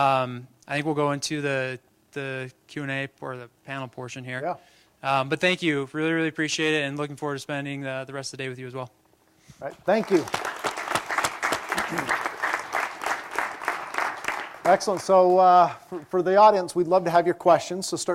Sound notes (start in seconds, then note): 9.8 applause